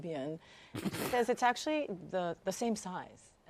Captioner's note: snickers